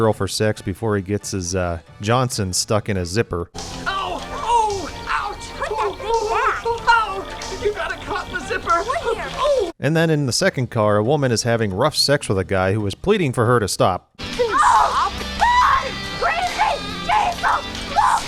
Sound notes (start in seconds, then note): 8.9 whimpering; 14.2 wildly moaning and shouting unitelligibly; 14.3 wildly moaning; 18.1 wildly moaning and shouting unitelligibly